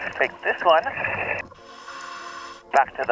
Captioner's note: apparatus inhales